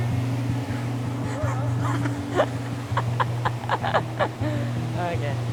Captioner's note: laughing